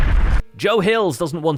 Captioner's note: explosion